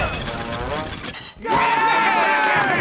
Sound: cheering

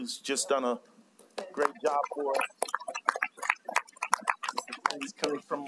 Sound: applause

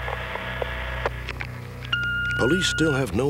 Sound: machine beep

